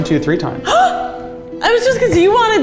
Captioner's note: gasps